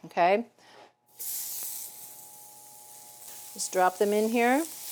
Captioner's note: pan sizzling